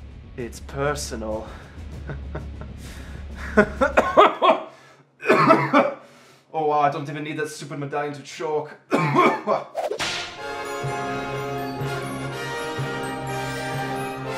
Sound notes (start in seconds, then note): 1.9 laughs all evil; 4.2 chokes; 9.7 whip sound effect